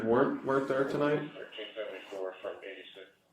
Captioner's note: radio chatter